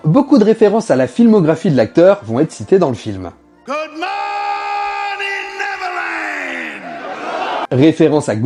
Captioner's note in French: cri